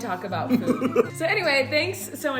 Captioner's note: laughter